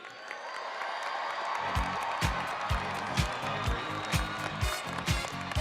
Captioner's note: audience cheering and applauding; upbeat music